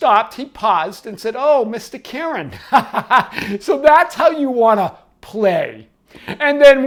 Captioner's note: laughs